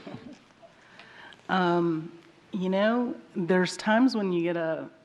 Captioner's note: laughter